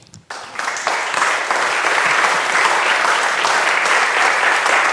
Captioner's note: audience applauding